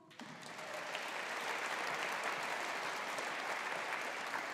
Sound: audience applauding

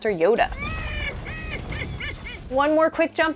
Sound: yoda laughing

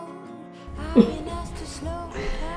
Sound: chuckles

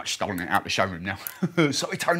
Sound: laughs

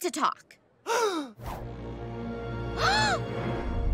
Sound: gasping

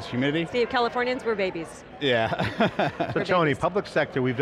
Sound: laughing

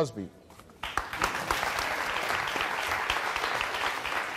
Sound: audience applause

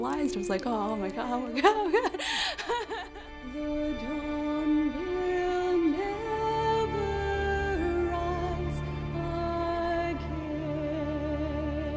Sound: laughs; singing

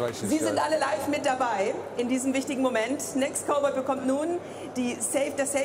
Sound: speaking in foreign language

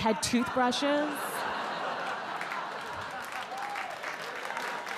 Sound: audience laugh and clap

